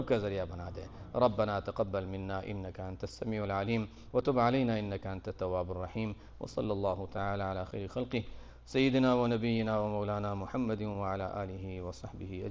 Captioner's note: Arabic